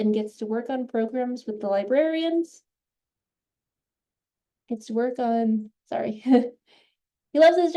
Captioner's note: chuckles